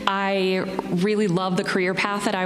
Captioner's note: none